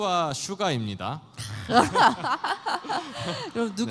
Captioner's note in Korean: 웃음